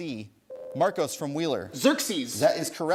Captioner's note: ding